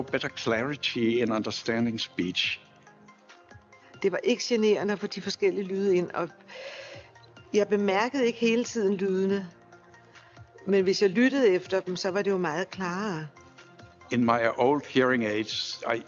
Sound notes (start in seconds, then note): 4.4 woman speaks foreign language